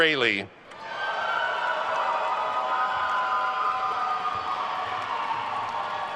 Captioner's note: attendees cheering and applauding